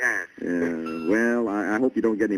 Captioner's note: on phone